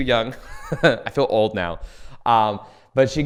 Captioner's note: laughs